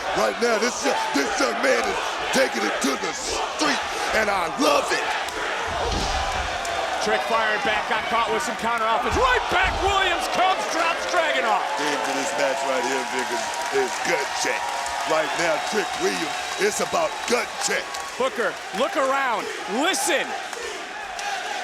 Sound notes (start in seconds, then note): 5.9 crowd oohing